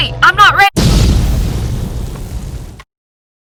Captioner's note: boom